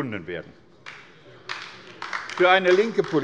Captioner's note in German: Beifall bei der LINKEN